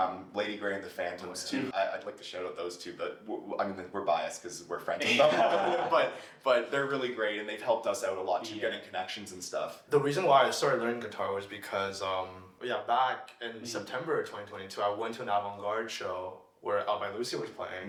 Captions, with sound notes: Lady Grey and the Phantom was too. I'd like to shout-out those two but I mean we're biased because we're friends. (all laugh) But but they're really great and they've helped us out a lot to get connections and stuff. The reason why I started learning guitar was because back in September of 2022 I went to an Avant-Garde show where Alvin Lucie was playing.